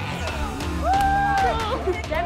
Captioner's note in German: Jubel